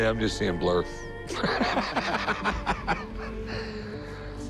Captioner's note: laughs